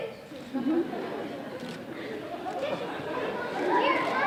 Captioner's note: audience laughing